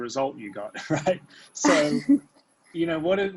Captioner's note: laughing